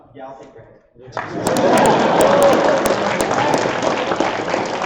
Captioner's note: applause